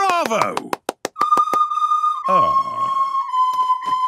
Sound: children continue playing

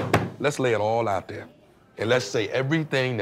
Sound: bangs on table

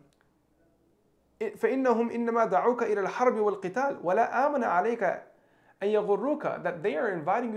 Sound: speaking in Arabic

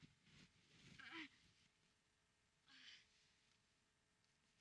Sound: Brigit grunting

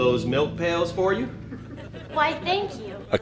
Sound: audience laughs

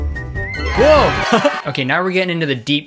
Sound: laughs

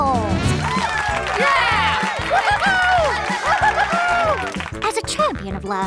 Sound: all applauding

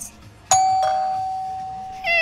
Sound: doorbell

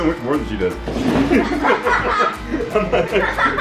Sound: laughs

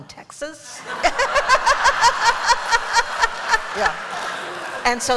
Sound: laughter

